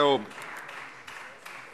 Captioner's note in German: Beifall Freie Demokraten